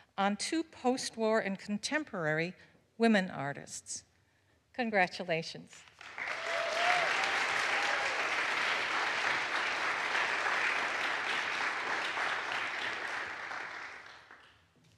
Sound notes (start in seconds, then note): 5.9 audience applauds